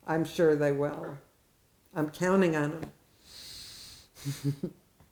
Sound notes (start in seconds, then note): 4.2 laughs